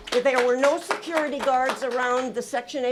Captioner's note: applause